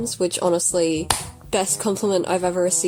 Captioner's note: clap